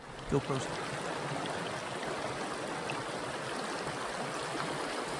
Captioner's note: river flowing downstream